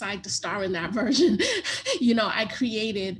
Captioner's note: laughs